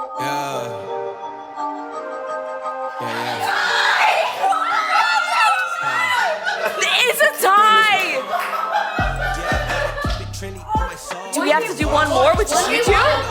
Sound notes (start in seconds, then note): 0.0 slow music plays; 2.9 crowd cheers